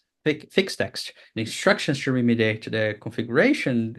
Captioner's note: faintly speaks